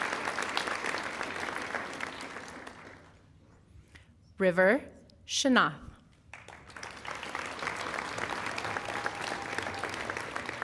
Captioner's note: applause